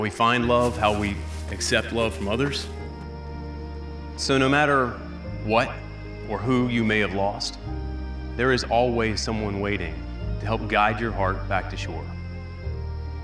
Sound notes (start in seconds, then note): none